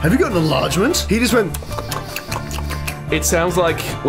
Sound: various suggestive mouth noises

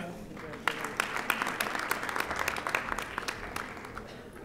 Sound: audience applauding

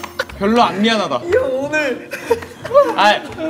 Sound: laughing

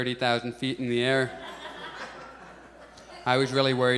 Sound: audience laughs

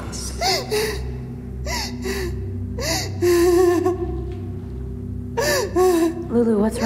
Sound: crying

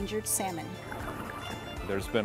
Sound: water bubbling

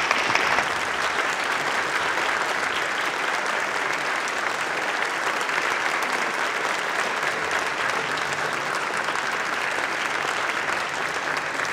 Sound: applause

